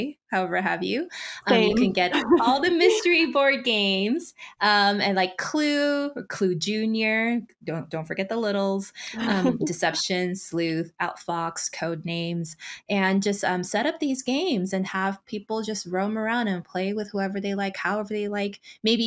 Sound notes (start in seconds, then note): 9.1 chuckles